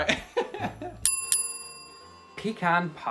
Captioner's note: laughing; bell dinging